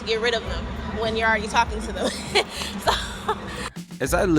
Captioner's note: laughing